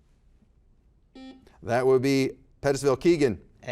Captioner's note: buzzer buzzes